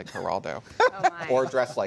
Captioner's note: laughter